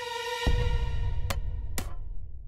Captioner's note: soft thud